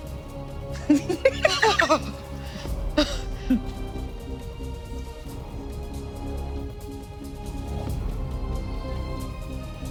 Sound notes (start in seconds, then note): 0.7 people laughing; 3.3 dramatic music continues